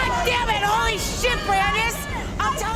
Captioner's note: shouting